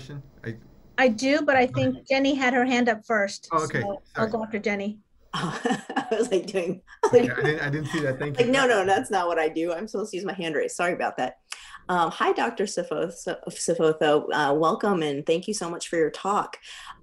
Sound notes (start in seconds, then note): 5.4 laughs